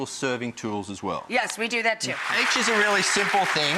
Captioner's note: applause